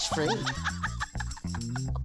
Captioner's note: she laughs